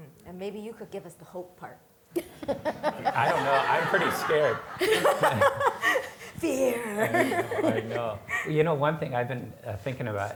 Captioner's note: laughing